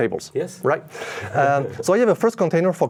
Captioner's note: chuckling